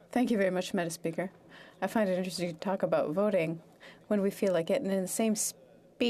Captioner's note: speaking French